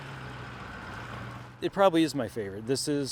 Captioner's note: truck engine